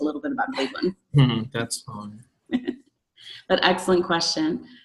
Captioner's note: laughs